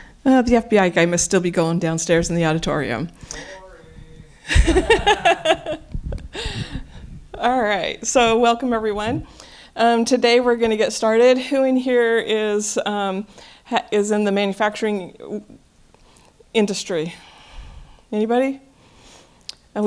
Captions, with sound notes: Oh, the FBI guy must still be going downstairs in the auditorium. Boring. [LAUGHTER] All right. So welcome, everyone. Today, we're going to get started. Who in here is in the manufacturing industry? Anybody?